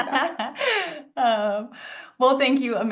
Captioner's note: laughs